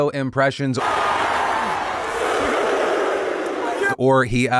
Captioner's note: crowd cheering